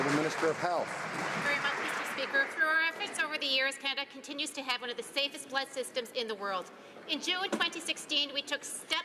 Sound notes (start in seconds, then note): 0.0 some Applause